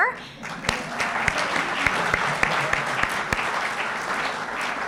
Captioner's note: applause